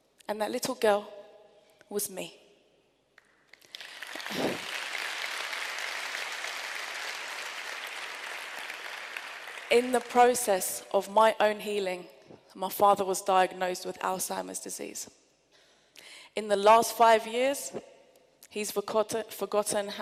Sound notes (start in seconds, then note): 3.2 applause